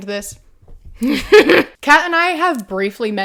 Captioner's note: strained laughter